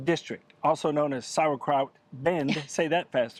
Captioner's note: laughing